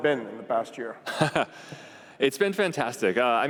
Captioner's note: laughs